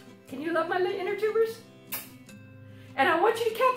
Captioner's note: blows kiss